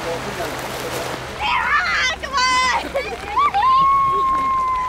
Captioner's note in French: cris aigus